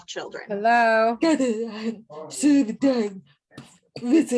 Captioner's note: people talking in the background